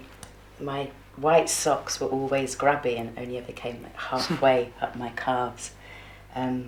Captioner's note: gail chuckles